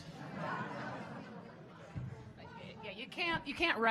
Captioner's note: audience laughing